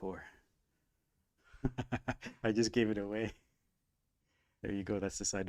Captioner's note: laughing